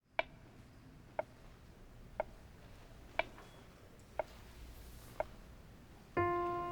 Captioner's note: metronome ticks steadily